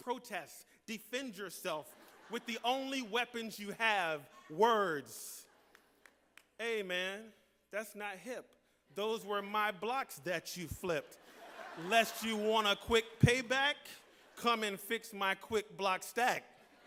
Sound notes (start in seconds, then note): 11.0 laughter; 15.9 laughter